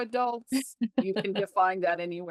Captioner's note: laughs